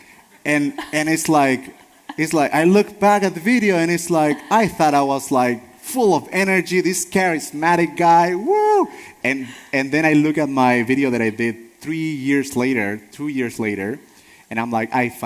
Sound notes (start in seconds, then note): 8.4 wooh